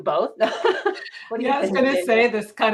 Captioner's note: laughs